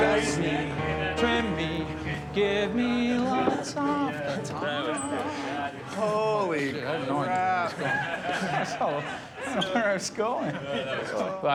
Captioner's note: people talking